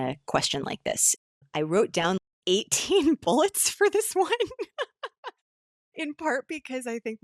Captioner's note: laughing